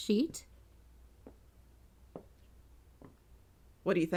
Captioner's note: footsteps